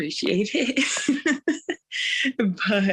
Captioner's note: laughter